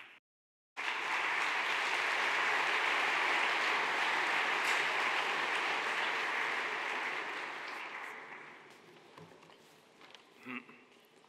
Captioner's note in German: Beifall